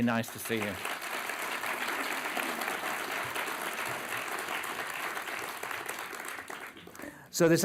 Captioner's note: applause